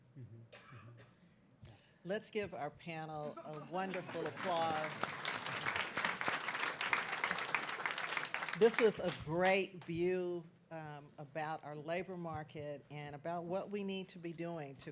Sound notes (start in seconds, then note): 6.8 clapping